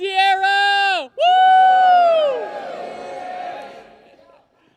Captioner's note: cheers and applause